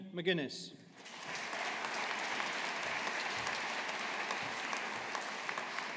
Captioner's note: audience applauding